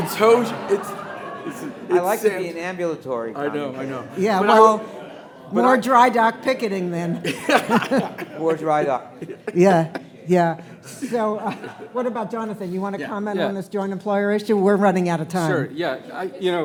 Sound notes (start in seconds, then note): 0.0 attendees laughing; 7.2 laughing